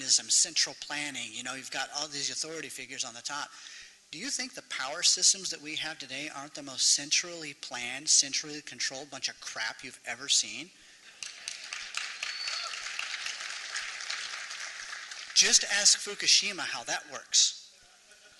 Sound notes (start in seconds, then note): 11.1 applause